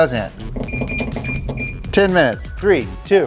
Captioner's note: electronic buttons beeping